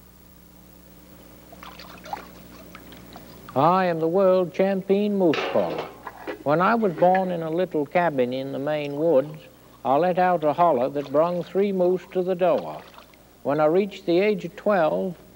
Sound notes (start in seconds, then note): 1.5 water sloshing